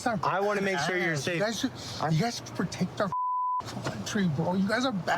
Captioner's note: beep